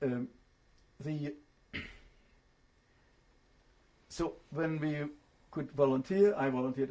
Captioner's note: pauses for 3 seconds